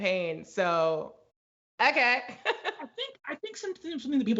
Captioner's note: laughs